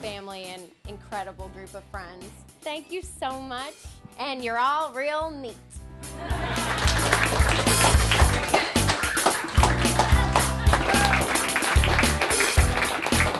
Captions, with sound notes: and incredible group of friends. Thank you so much and you're all real neat. (laughter and applause)